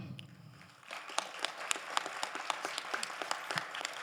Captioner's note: crowd applauding